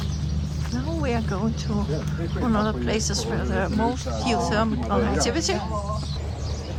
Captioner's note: birds singing